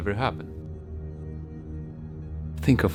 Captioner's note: echoed voices